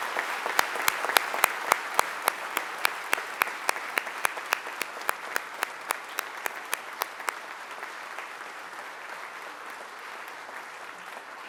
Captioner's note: applause